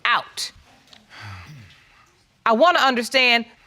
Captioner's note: exhales